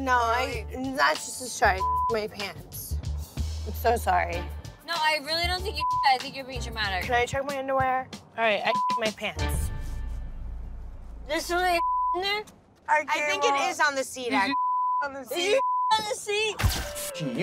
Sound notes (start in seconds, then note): 1.7 beep; 5.7 beep; 8.6 beep; 11.7 beep; 14.5 beep